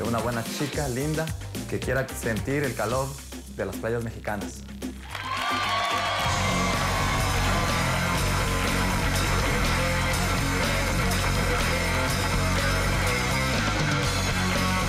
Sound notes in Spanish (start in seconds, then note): 5.0 Aplausos